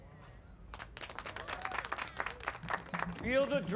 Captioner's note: applause